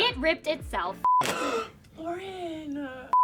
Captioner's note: clothing tears